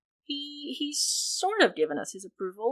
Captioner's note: none